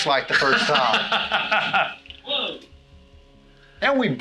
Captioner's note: laughs